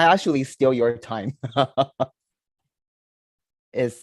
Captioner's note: chuckles